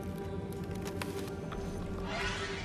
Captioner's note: crackling